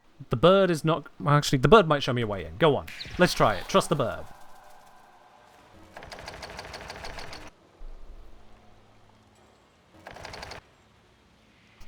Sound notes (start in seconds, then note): 6.1 spammed attempts to open a door; 10.1 spammed attempts to open a door